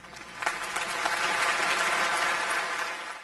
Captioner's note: audience clapping